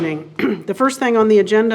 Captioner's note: clears throat